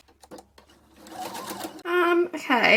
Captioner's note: sewing machine making noises